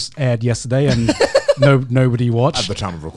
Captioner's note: laughs